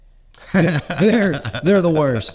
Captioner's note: laughing